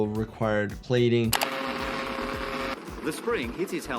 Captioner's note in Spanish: el motor ruge